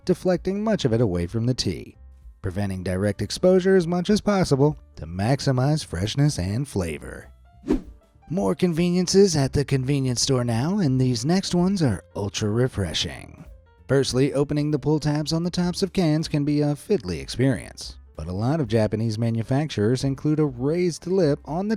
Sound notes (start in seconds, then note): 7.6 screen whooshing